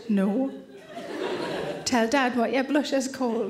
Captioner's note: audience laughing